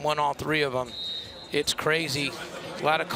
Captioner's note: whistle blows